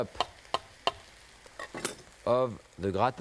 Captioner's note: knife clacking